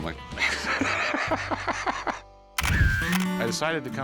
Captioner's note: laughter